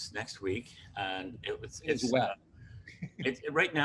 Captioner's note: laughs